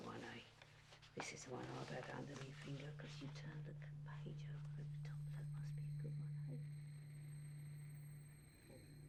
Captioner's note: voice fades away